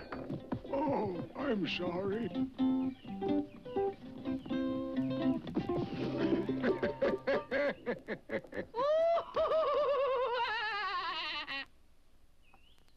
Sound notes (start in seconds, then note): 1.7 upbeat guitar music; 6.0 house laughs; 8.3 dummy laughs